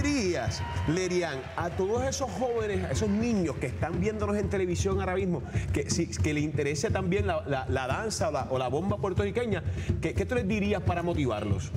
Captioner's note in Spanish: aplausos